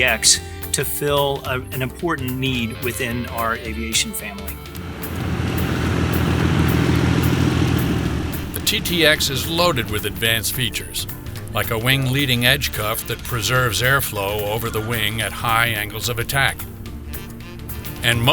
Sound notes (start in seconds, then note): 4.9 aircraft fan blades whirring; 8.7 voiceover